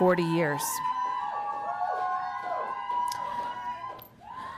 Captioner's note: mob cheering